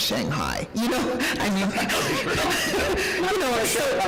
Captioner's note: gasping and laughing; cackles